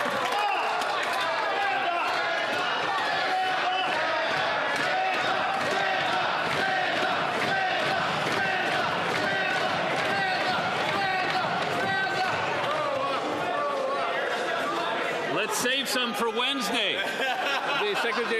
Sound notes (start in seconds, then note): 3.5 some Applause